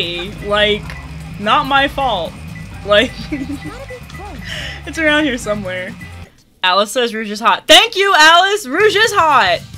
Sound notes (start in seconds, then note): 3.0 giggles